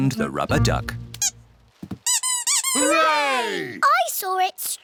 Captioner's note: duck squeaks